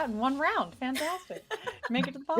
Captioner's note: laughing